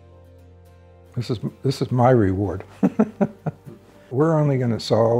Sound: laughs

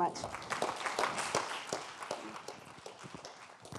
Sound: applause

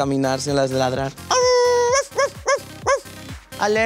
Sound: howling and barking

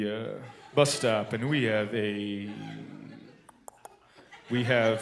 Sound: clicks tongue

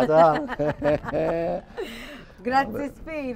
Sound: they both laugh

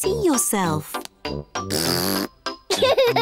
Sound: blows raspberry; giggles

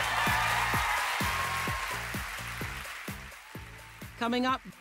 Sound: cheers and applause

